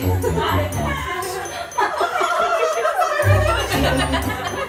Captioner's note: crowd laughing